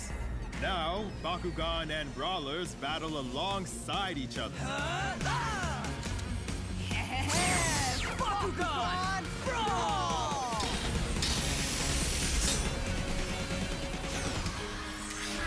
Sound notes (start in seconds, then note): 4.6 grunting; 6.8 brawler laughing